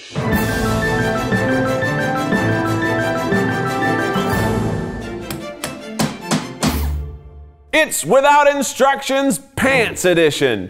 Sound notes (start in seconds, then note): 0.1 bright music; 5.9 letters stamping